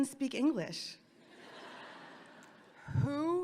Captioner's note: audience laughing